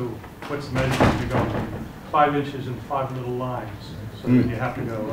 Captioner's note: clattering sound